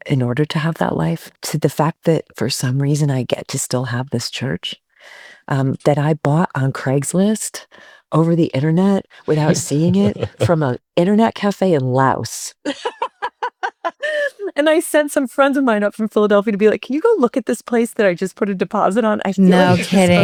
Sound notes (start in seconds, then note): 12.6 laughing